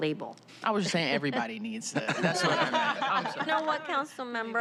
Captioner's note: laughter